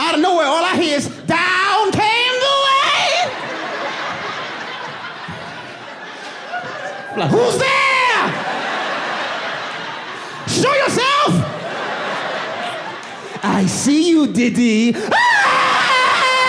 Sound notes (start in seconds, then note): 0.3 audience laughing; 6.2 audience laughing; 9.7 audience laughing; 12.7 screams; 14.4 audience laughing